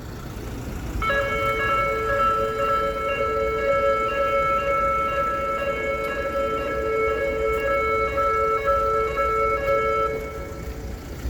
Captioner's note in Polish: dźwięk alarmu